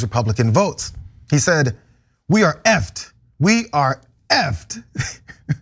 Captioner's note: laugh